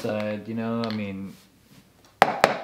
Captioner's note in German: Tasse klopft auf den Tisch